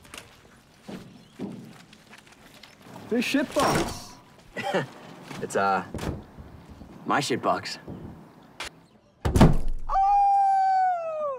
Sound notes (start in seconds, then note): 4.5 scoffs; 9.1 hand bangs the hood